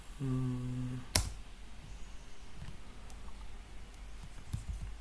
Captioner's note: typing noise